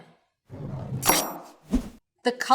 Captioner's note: knife chops